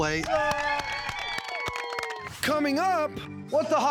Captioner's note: cheering, clapping